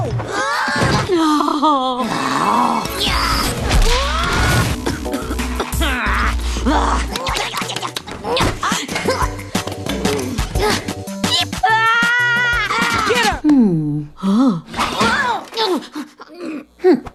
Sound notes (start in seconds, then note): 0.4 crying; 3.5 crash; 4.3 coughing; 5.6 grunting